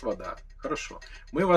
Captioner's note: chuckles